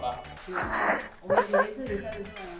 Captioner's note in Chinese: 尬笑